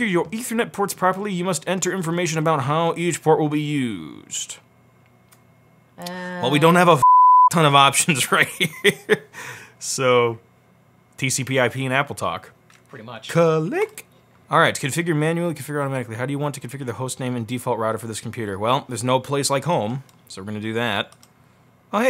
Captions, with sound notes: your ethernet ports properly, you must enter information about how each port will be used. Well we don't have a (beep)ton of options right here, so PCIP and AppleTalk. - Pretty much. - Cuh-lick! Alright, configure manually configure automatically. How do you want to configure the host name and default router for this computer? Well, there's no place like home, so we're gonna do that.